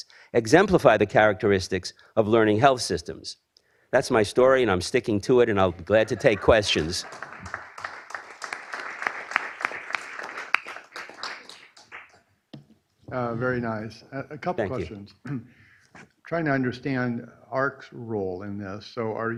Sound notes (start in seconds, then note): 5.7 applause